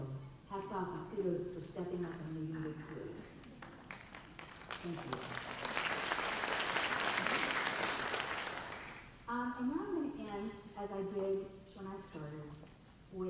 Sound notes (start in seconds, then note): 3.6 audience applause